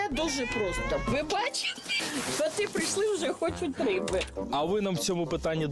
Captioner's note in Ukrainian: Нявчать коти